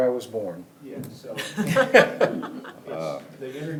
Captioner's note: members laughing